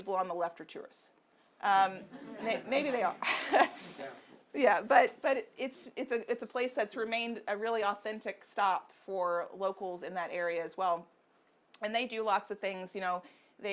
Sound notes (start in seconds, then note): 2.2 audience laughing; 4.0 audience member murmuring